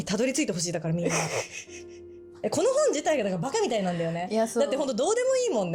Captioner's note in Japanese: 笑い